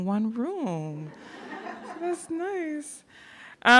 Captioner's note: audience laughing